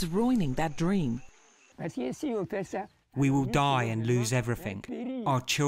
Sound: through translator

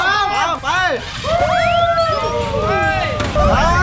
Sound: applauding

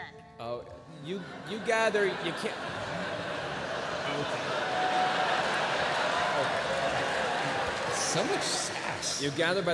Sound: laughter

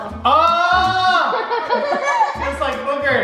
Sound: yelling

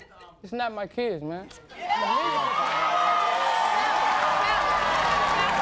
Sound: audience cheers

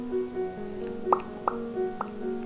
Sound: random popping noises

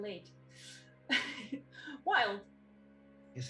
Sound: laugh

